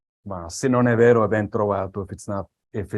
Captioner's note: non-english speech